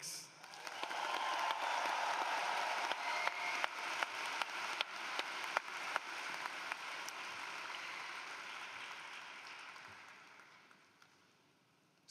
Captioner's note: cheering and Applause